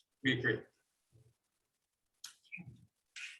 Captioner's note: speaking away from mic